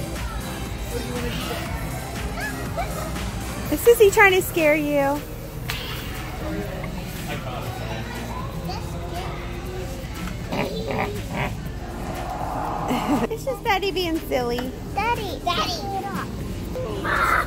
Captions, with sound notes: Sissy Ahh Is sissy trying to scare you? That scared me (Grunting noises) It's just daddy, It's just daddy being silly Daddy take it off